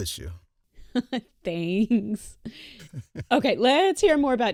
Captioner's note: chuckles; laughs